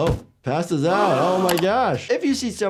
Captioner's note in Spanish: la audiencia jadea